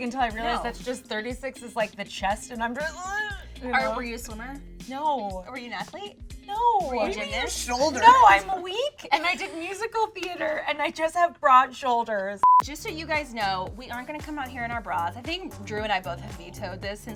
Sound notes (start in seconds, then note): 3.4 grunts; 12.4 beeping